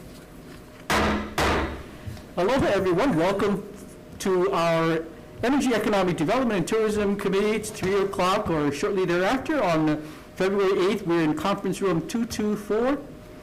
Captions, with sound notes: (gavel banging) - Hello, everyone, welcome to our Energy Economic Development and Tourism committee. It's three o'clock or shortly thereafter on February 8th. We're in conference room 224